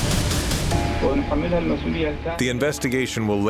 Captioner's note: suspenseful music; non-English speech